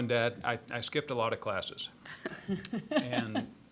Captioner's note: scattered laughing